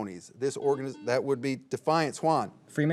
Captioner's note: signal beeps